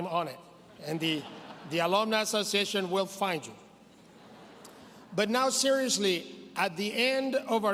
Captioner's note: laughter